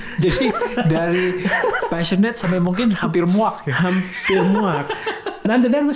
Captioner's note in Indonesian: tertawa